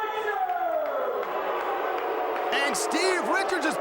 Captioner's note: crowd cheering